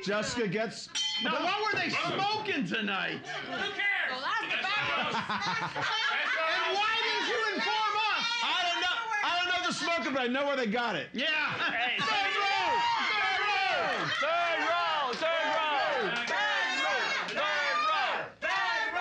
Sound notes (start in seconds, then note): 1.0 bell softly chimes; 4.6 loudly laughing; 5.9 audience shouting; 14.1 everyone chanting, "third row"